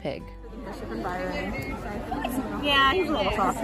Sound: crowd chattering

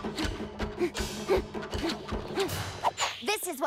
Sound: grunting

